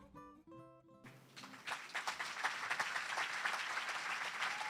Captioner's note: applause